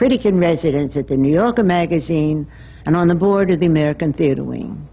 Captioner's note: none